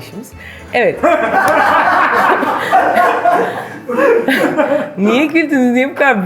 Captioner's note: laughs